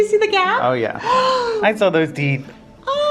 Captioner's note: gasps